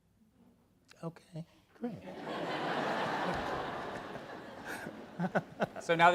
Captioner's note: audience laugh